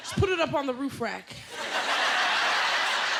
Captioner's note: laughter